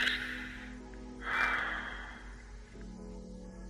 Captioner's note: sighs